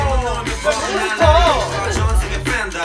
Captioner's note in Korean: 감탄